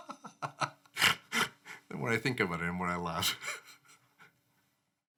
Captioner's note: laughs